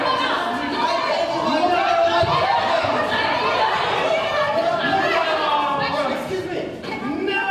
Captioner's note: pandemonium